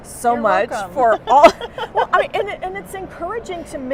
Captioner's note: laughter